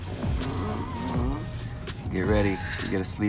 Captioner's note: tired grunt